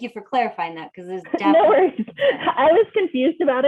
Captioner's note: laughter